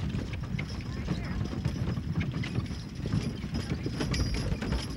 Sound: bells jingling

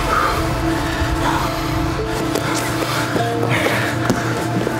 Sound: breathing heavily

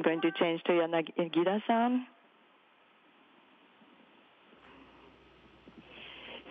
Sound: speaking foreign language

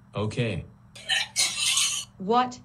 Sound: barfing

